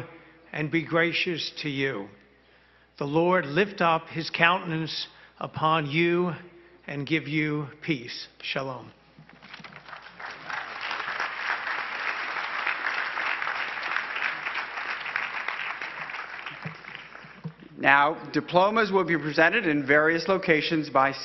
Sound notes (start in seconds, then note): 9.6 crowd applauding